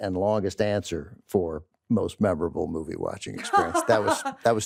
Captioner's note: laughs